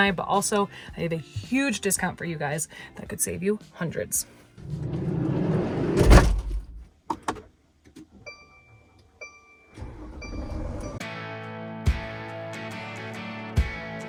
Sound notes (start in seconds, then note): 8.0 beeping; 11.2 upbeat music